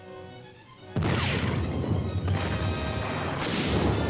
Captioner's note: tank fire